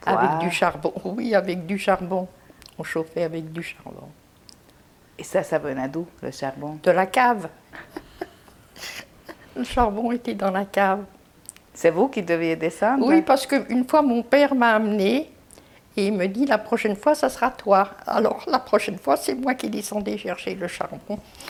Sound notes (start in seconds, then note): 7.7 laughing